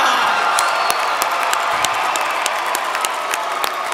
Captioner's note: applause